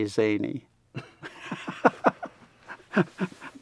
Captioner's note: laughs